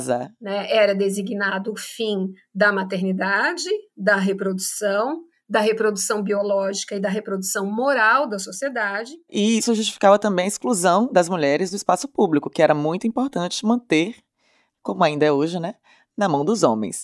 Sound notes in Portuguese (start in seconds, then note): none